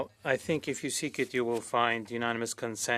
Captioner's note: speaking French